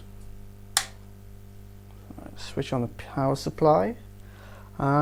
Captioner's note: switch click